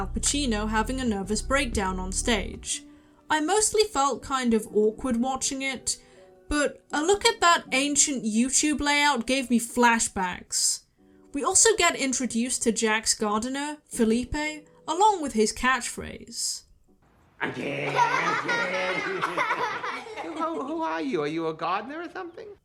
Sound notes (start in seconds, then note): 17.5 laughter